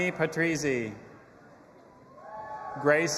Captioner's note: audience applauding and cheering